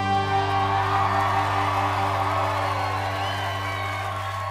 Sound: audience cheering

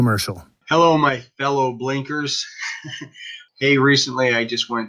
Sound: laughs

